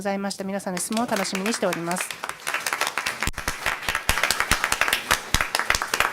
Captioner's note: applause